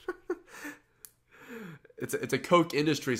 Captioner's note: laughs